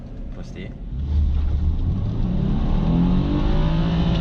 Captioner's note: boxer engine revving up